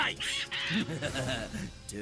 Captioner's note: Mal Evil Laughing